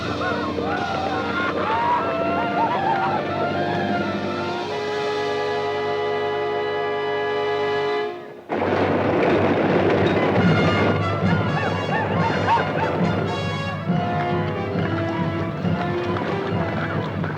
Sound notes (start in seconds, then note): 10.7 Apaches howl; 11.0 dramatic orchestral music